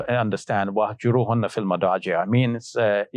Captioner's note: speaking Arabic